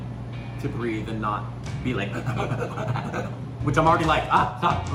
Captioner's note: panting